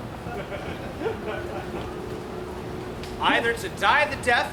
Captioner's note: audience laughs